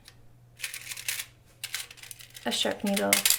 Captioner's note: rattling